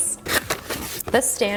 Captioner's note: package rustling